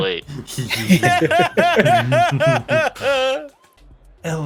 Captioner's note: laugh